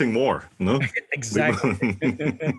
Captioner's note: laugh